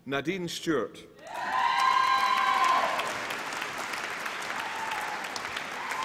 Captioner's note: applause and cheering